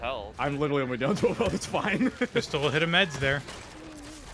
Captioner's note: laughter